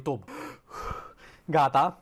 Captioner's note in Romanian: Își trage respirația